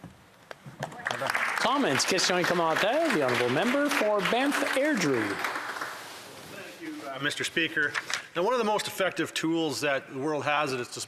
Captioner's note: speaking Alternate Language